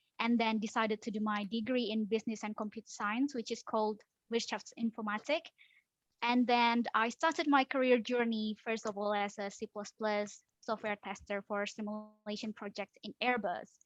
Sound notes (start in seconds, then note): 5.5 in German